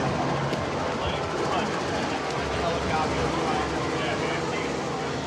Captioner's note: helicopter in background